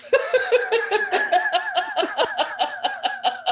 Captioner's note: laughter